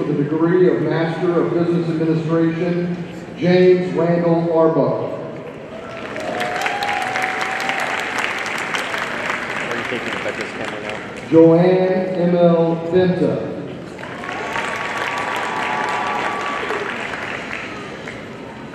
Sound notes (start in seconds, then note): 5.7 audience cheering and applauding; 9.6 people chattering indistinctly; 13.9 audience cheering and applauding